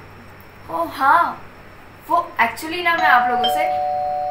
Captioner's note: door bell ring